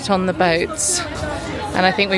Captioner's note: tourists chattering